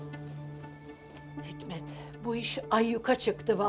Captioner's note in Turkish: none